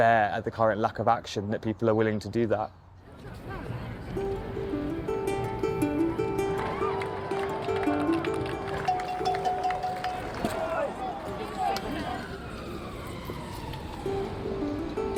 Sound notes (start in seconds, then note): 3.1 indistinct chatter; 4.1 gentle instrumental music; 6.4 cheering; 10.7 siren wailing